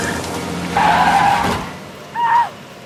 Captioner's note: tires screeching; Alicia screams